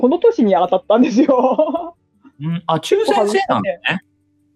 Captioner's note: laughs